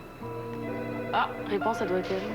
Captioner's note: Sonnerie du téléphone